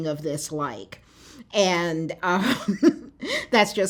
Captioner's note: laughter